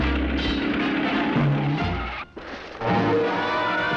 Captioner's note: tires screeching; tense music